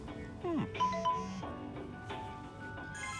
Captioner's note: text alert